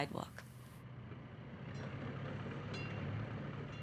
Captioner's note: city traffic